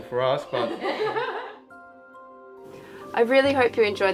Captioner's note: laughing